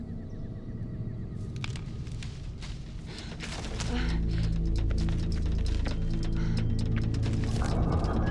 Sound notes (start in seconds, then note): 1.4 branches and leaves crackling; 3.3 Jill gasps; 8.0 animals calling; 8.0 suspenseful music